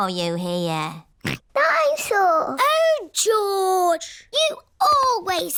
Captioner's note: snorts